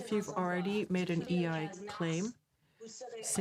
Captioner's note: speaking French